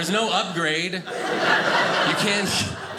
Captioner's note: audience laughing